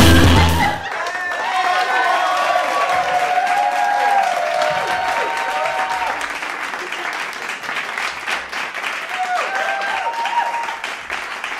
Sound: cheering and applauding

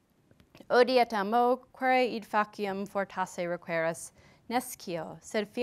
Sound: speaker speaking foreign language

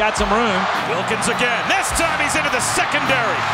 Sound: voiceover

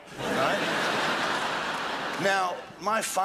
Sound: crowd laughs

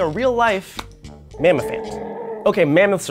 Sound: smacks

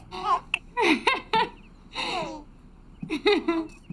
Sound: Nancy laughs

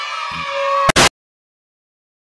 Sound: static starts then stops

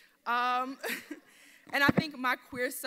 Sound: laughs

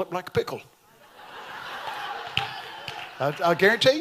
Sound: audience laughs

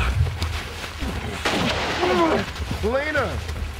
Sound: gunshots

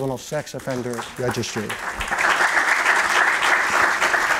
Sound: applause

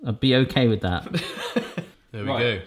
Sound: laughing

